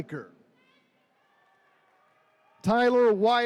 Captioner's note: attendees cheering